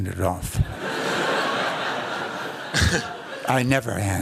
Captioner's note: laughter